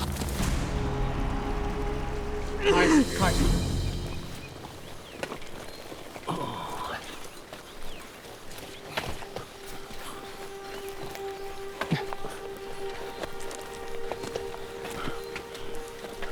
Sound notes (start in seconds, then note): 2.6 Caius grunting; 6.7 Legatus groaning